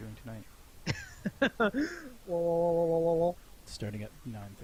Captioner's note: laughing